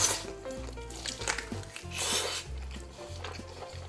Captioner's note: chomp